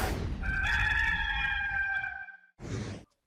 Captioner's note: cock crowing